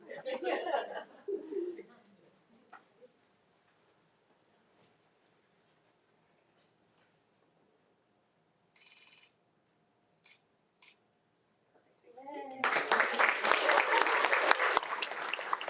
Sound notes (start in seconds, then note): 0.1 all laugh; 8.8 camera shutters; 12.6 audience applauding